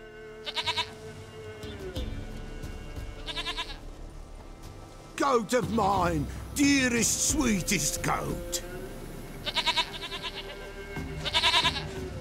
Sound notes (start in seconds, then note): 0.4 baa; 3.1 baa; 9.4 baa